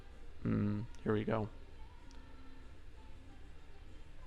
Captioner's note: yummy noises